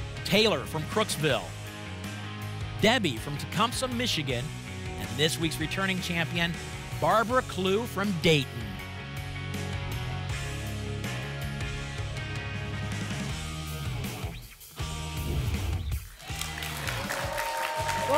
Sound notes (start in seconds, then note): 15.2 whoosh; 16.0 applause and cheering